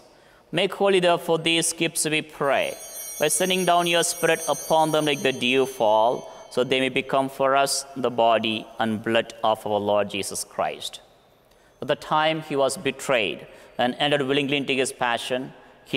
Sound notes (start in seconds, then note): 2.4 bell ringing